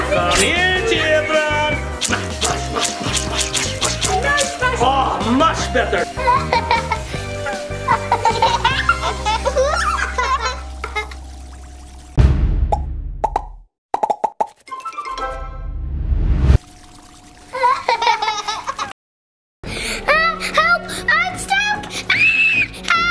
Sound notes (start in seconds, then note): 2.0 squishing noises; 5.5 children laughing; 12.2 title bangs; 14.0 letters pop; 17.5 children laughing; 22.1 screaming